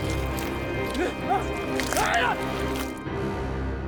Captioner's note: walter groaning